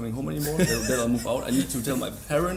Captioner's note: laughs